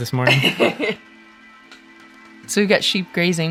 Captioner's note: laughs